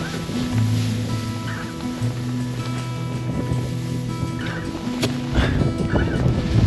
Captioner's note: string music continues; tent rustling